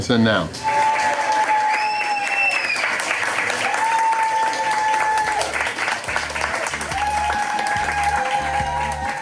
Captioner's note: crowd clapping and cheering